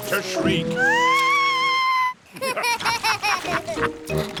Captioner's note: shrieks; laughter